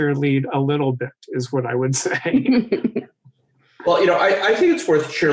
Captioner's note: laughing